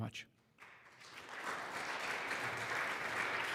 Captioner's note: applause